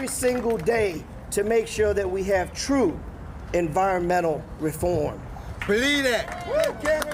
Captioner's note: applause